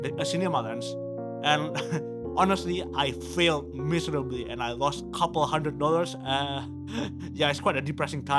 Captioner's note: chuckles